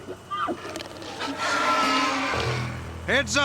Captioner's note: growling